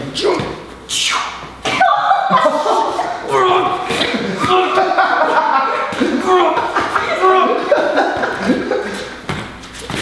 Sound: laughs

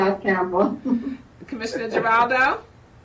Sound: chuckles

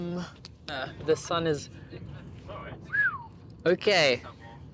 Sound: whistles

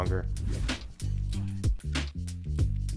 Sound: air whooshing

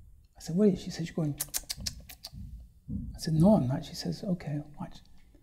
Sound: makes noises with mouth

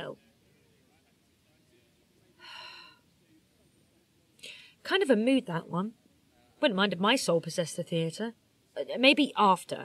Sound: sighs

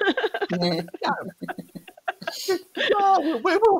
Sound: laughter

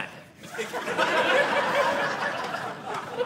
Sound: audience laughing

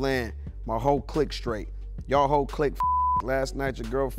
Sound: beep

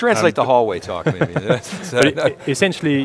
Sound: laughs

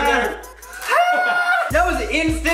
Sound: inarticulate cries of pain

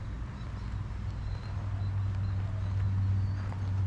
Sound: wind blowing

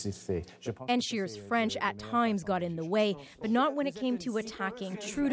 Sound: speaking French

